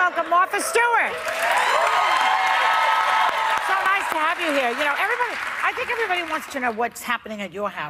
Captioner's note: cheers and applause